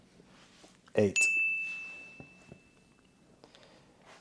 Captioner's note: bell dings